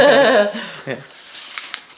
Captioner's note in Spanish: los dos ríen